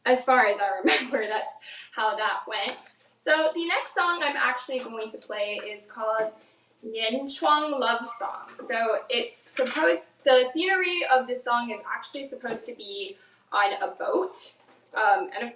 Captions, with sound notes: As far as I remember, that's how that went. So the next song I'm actually going to play is called (speaks in foreign language) Love Song, so it's supposed, the scenery of the song is actually supposed to be on a boat,